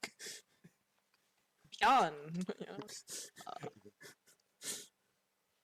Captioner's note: chuckles